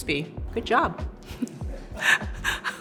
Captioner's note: laughs